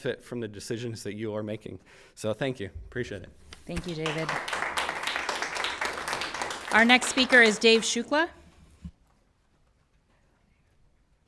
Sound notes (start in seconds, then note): 3.7 everyone applauds